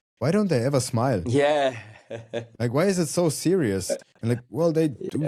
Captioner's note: chuckles